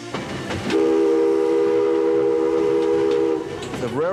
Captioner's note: train whistle blowing